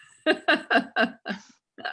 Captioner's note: laughing